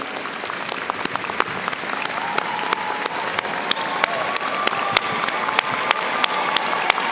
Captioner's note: audience cheers and applauds